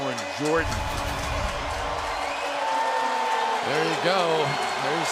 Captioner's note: pa announcement